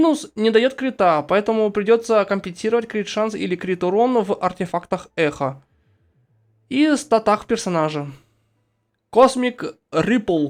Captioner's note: echoes